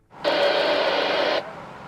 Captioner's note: radio static